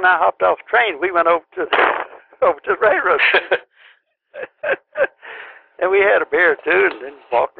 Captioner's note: laughter